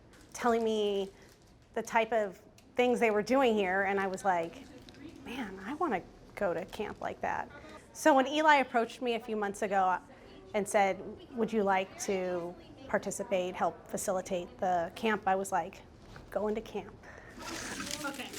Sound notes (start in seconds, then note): none